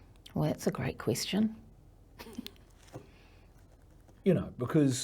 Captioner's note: laughs